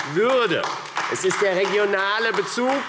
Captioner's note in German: Beifall AfD